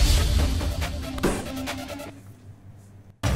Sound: bangs on table

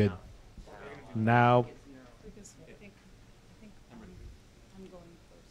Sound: speaking off microphone

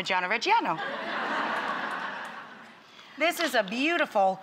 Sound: audience laughing

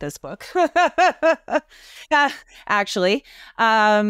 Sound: laughs

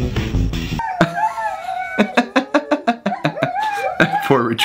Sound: laughing

